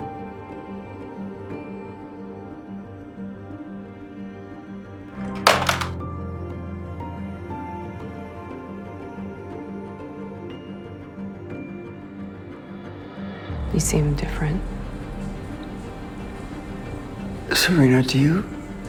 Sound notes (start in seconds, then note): 5.2 Nick slams the phone onto the receiver; 13.7 voiceover